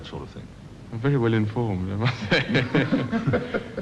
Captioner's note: laughs